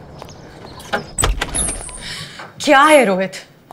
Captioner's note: Door opens